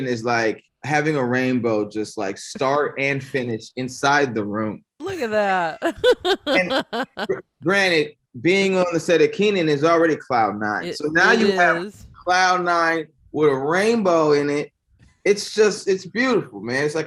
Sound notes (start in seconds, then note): 5.0 laughs